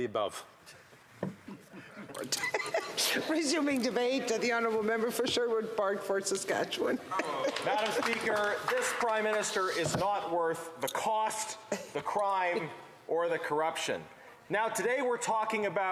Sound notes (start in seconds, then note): 6.9 laughter